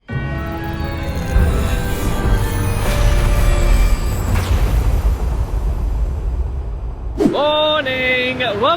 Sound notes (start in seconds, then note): 4.1 thunder snapping